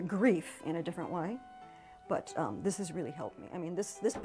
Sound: with much emotion

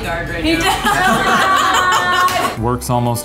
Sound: laughing

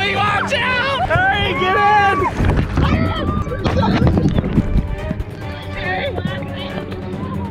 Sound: multiple voices

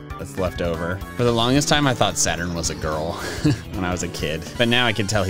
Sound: laughs

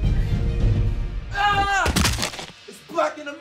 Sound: Goon yelling

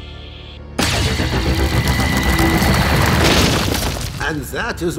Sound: sound waves

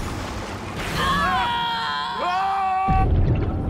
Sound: screaming

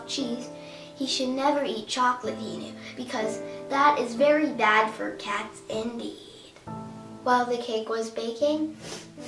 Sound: smelling

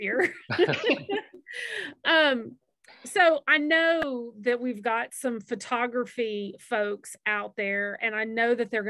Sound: laughs

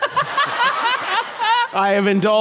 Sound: laughter

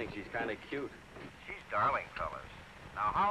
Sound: man on microphone

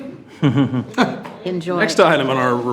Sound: attendees chuckling

